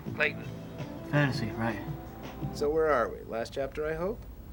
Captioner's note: none